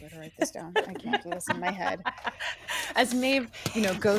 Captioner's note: laughing